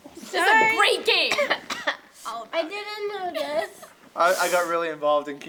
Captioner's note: coughs